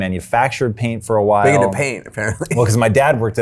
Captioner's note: chuckles